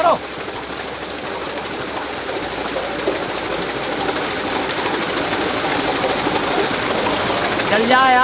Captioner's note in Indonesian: Suara turbin